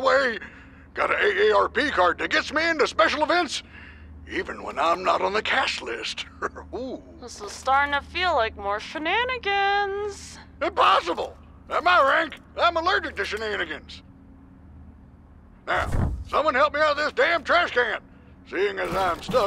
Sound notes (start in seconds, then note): 6.2 chuckles